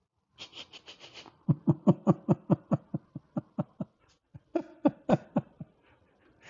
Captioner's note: Ketawa